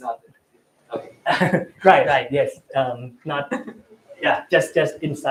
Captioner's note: laughs